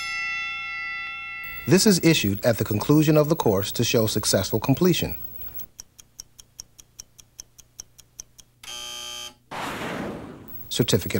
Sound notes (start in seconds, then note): 0.0 bell rings; 8.6 buzzer